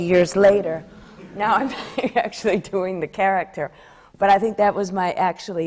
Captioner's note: laughs